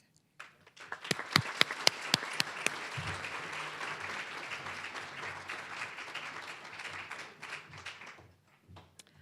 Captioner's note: applause